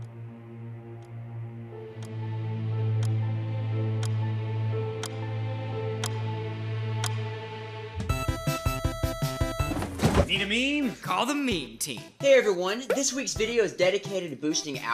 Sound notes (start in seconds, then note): 1.9 clock ticking; 7.9 upbeat music